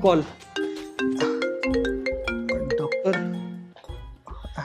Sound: phone ringing

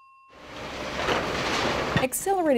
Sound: construction noise

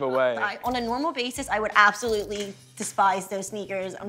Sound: laughing

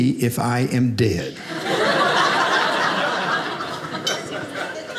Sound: audience laughing

